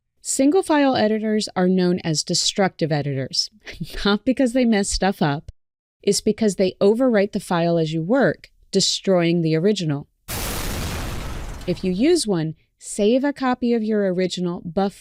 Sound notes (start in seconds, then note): 10.3 crashing boom